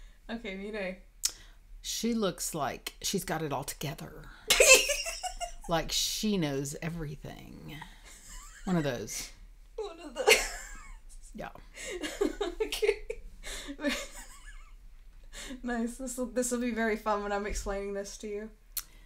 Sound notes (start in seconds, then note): 4.6 laughing; 11.9 laughing